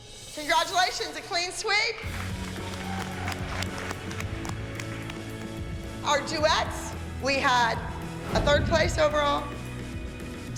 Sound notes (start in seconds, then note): 1.8 applause